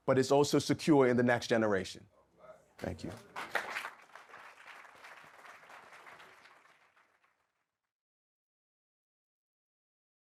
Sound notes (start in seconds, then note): 2.8 audience clapping